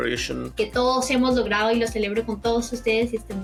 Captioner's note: speaking spanish